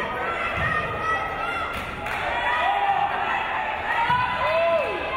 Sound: crowd

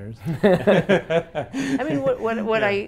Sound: both laughing

